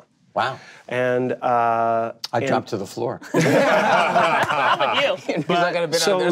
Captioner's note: group laughing